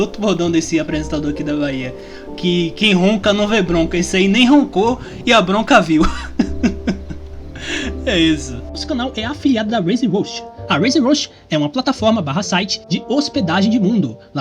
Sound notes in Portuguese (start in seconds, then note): 6.0 Risos